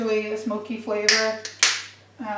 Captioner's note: lid clicks shut